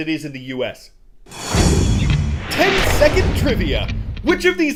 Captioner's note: voice-over